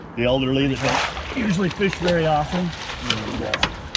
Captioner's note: fish splashing